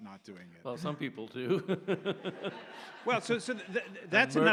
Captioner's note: audience laughs